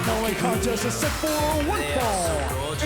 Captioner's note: bell ringing